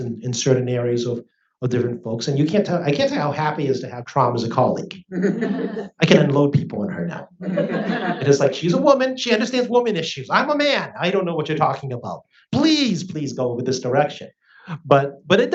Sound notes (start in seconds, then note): 7.4 audience laughs